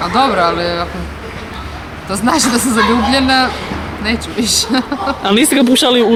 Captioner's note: laughter